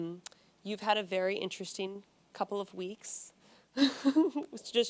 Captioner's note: chuckles